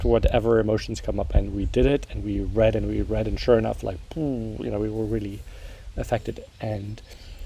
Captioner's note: sigh